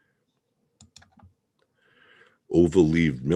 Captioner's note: mouse clicking